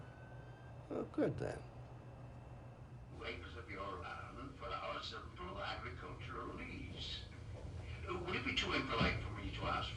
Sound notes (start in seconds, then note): 3.4 man talking on television